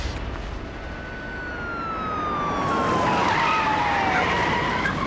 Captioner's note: siren wailing